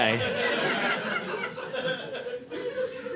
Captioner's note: audience laughing